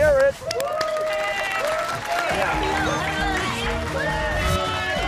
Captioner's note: cheers and applause